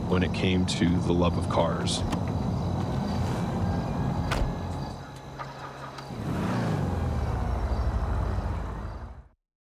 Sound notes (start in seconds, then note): 4.1 car door shuts sound; 6.2 muscle car engine sound